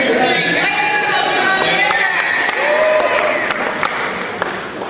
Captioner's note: cheering